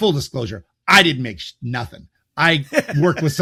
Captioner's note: laughs